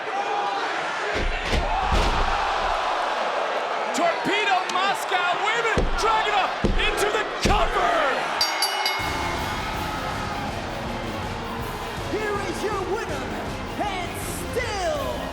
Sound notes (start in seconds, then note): 8.3 bell rings; 9.0 grand orchestra music plays